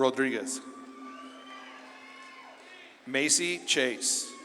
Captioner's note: audience claps and cheers